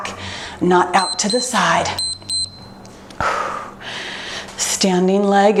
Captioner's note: timer beeps